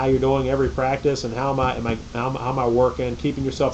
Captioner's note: stammers